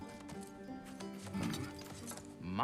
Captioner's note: grunt